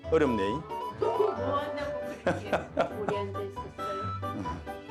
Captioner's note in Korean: 하하호호